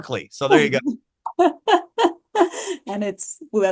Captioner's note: laughing